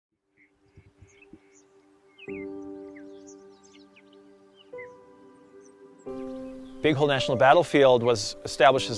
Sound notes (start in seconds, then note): 0.2 birds chirping